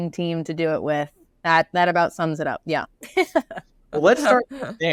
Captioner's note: laughs